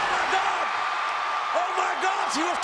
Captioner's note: crowd cheers